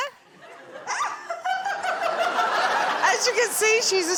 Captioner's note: laughs